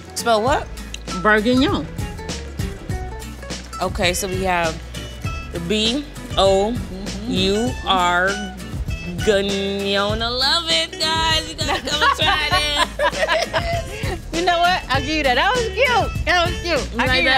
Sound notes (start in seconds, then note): 11.4 both laughing